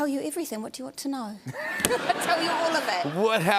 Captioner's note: laughter